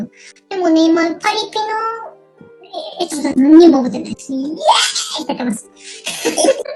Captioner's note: laughs